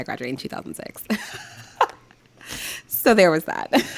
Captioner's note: laughing